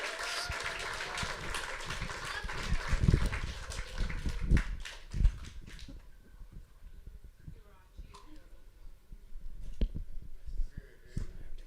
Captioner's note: applause